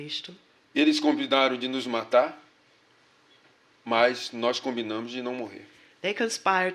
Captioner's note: speaking portuguese